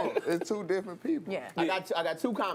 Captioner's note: laughter